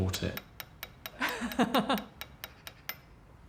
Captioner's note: laughs